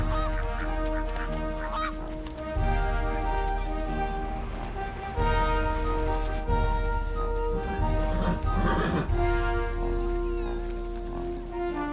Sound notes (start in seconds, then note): 0.3 ducks quacking; 8.0 horse nickers